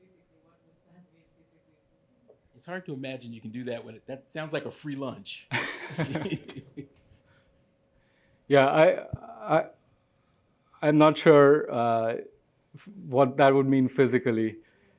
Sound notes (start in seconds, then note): 5.5 laughter